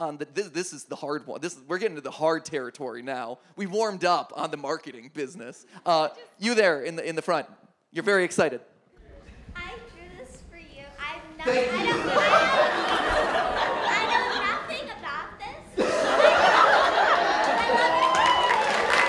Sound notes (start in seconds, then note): 11.4 audience laughing; 18.9 audience applauds